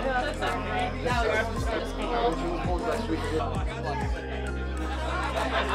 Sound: people chattering; upbeat music

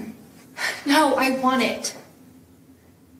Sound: Sam sighs

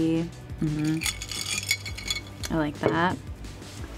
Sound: ice whirring

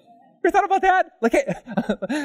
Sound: audience: Laughter

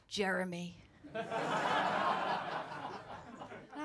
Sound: laughter

